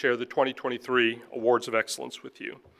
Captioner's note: none